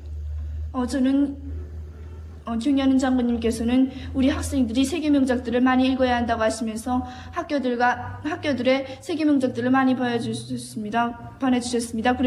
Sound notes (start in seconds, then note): 0.8 speaks in foreign language